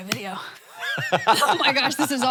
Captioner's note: Hank laughs